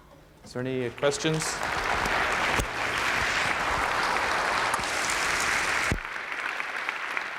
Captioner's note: applause